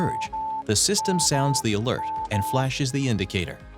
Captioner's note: system alert beeps